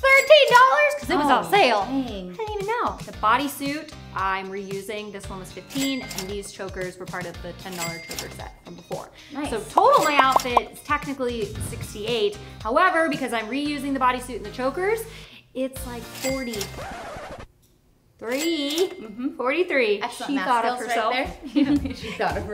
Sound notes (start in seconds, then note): 16.8 record scratch; 22.0 laughs